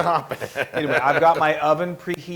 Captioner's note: laugh